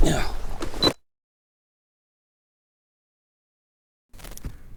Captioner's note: camera beeps